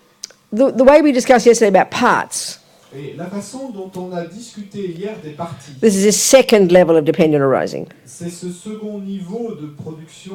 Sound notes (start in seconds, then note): 2.1 French; 8.1 French